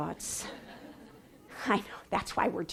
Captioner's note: laughing